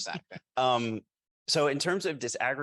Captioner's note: group chuckling